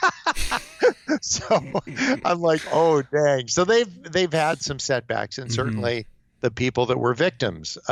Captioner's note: laughs